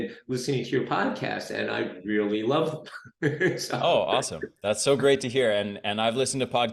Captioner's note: laughs